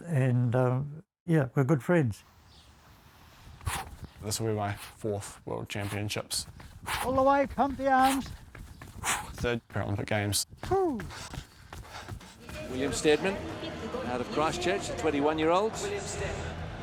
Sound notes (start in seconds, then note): 6.4 breathes forcefully